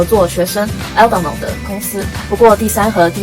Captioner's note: in french